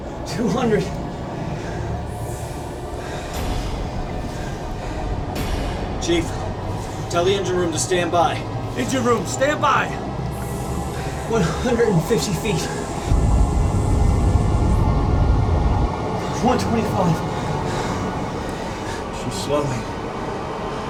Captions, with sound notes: 200... Chief, tell the engine room to standby. Engine room, standby! One hundred and fifty feet. [ship ascending] One twenty-five... She's slowing.